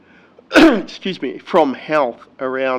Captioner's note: coughs